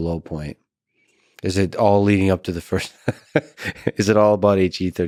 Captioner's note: laughs